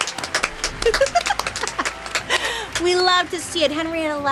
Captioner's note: Bailey laughs